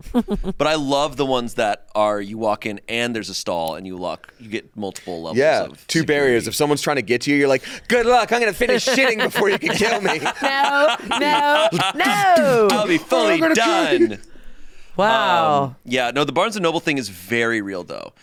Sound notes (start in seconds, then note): 8.6 laughing